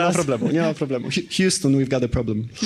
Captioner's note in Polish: śmiech